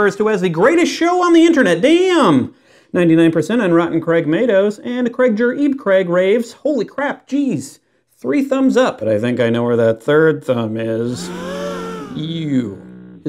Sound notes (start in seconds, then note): 11.2 audience gasps